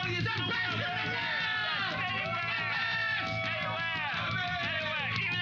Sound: cheers and applause

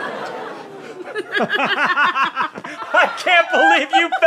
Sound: laughing

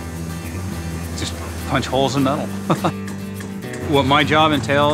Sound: laughs

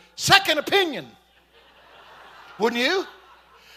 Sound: congregation laughing

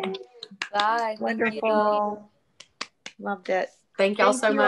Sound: off-screen voice; various voices

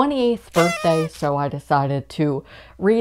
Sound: party Horn

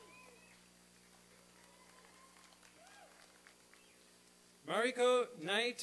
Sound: applause and cheering

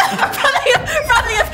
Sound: shouting

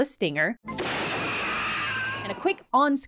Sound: wall bursting sound, dramatic high-pitched noise, woman screaming

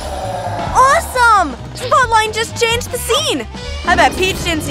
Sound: Peach exclaiming throughout

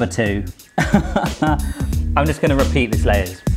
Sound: laughs

